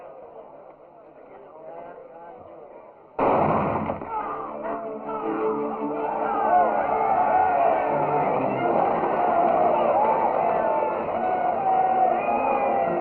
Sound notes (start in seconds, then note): 3.2 gunshot; 6.3 all yelling